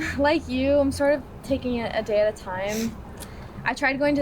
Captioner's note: none